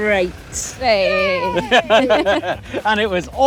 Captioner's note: laughs